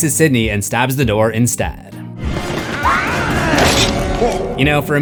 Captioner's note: screams